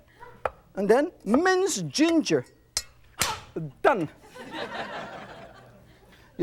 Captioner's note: audience laughs